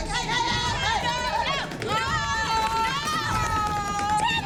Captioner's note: shouting